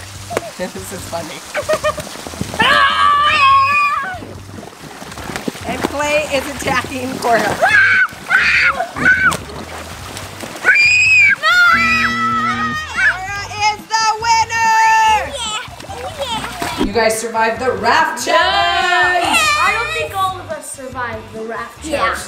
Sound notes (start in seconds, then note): 2.6 girls screaming; 7.8 screaming